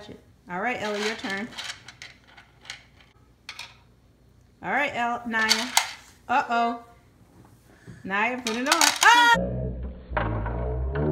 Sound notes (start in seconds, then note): none